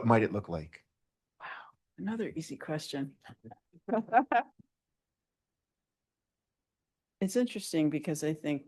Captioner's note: laughs